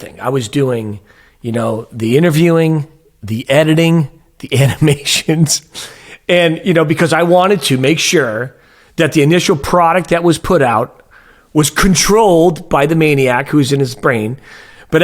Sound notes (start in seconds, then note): 5.5 chuckling